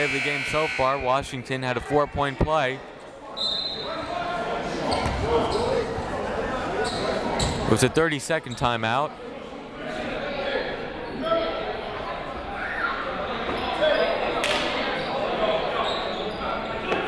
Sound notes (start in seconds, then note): 3.3 whistle